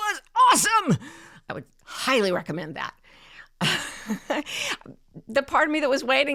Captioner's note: laughs